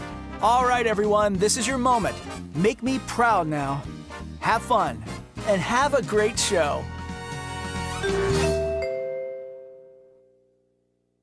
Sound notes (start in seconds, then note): 8.1 N-B-C chimes